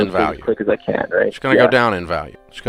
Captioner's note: man voice on a call